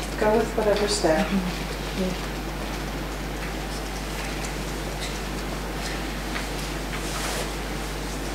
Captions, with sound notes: - Go with whatever's there. - Yeah. (fingers tapping)